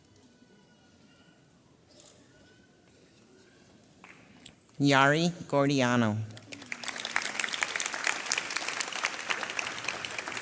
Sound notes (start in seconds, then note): 1.2 camera clicks; 6.4 audience applauds